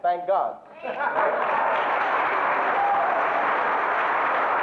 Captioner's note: audience applauding